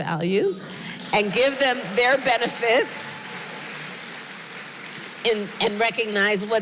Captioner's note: applause